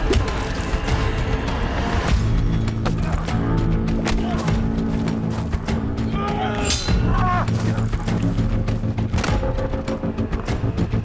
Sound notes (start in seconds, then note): 6.6 swords clanging; 8.2 dramatic music